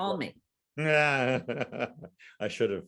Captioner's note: laughing